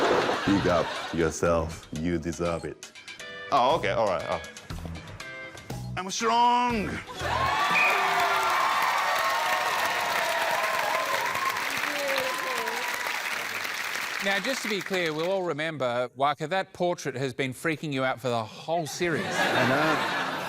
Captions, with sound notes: "Big up yourself. You deserve it." Oh, OK. Alright. Oh. I'm strong! [BLOWS WHISTLE] [APPLAUSE, CHEERING] Now, just to be clear, we'll all remember... Waka, that portrait has been freaking you out for the whole series. I know.